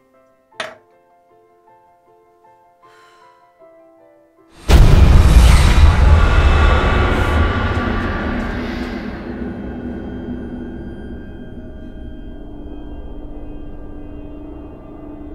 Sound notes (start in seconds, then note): 2.9 sighing; 4.6 dramatic music